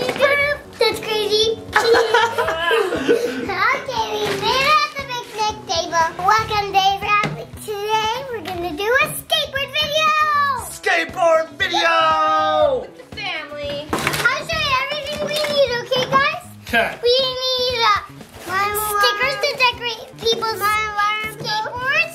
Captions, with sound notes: - Beep, beep, beep, That's crazy. (laughing) Okay, we made it at the picnic table. Welcome, today we're going to do a skateboard video! - Skateboard video! - With the family. - I'm going to show you everything we need, okay guys. - Okay. - We need stickers to decorate people's skateboards.